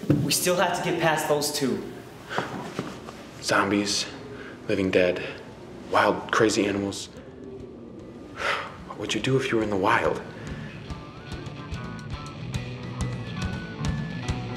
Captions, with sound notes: - We still have to get past those two. - Zombies, living dead, wild crazy animals. (sighs) What would you do if you were in the wild? (upbeat punk music)